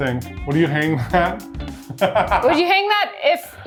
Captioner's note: laughs